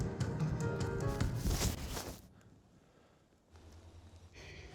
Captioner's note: music stops; thud!